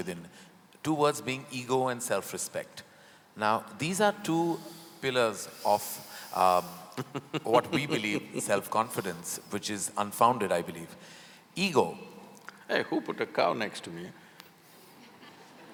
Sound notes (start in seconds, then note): 6.9 Sadhguru laughs; 15.1 laughter